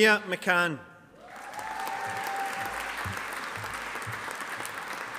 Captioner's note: audience applauding